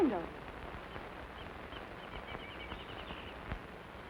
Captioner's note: birds chirping